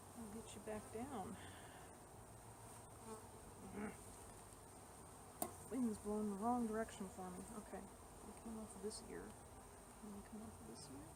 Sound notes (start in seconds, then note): 3.7 frustrated growl